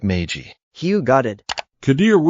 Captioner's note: click